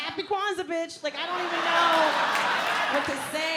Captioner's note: audience laughs